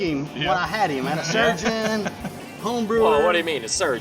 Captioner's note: laughs